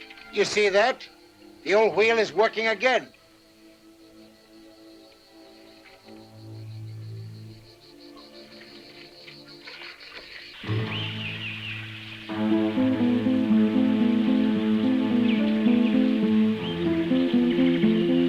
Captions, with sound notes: You see that? The old wheel is working again. (somber music continues) (tense music) (birds chirping)